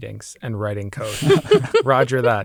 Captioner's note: laughs